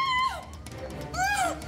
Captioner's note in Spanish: Gritos